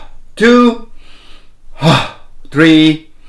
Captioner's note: inhales deeply